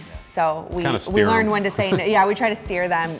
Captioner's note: laughs